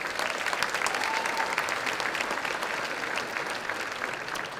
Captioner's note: applause